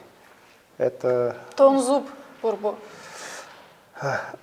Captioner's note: speaks in Buriat